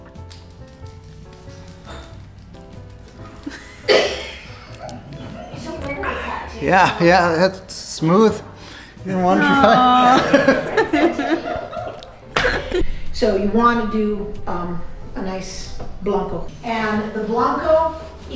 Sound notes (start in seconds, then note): 9.1 laughs